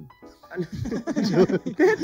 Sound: laughs

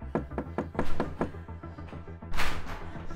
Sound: Caleb knocking

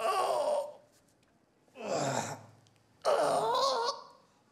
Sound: groaning

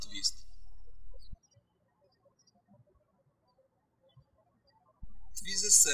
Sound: birds chirping

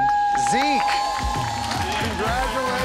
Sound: cheers and applause

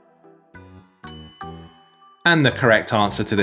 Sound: bell clinking

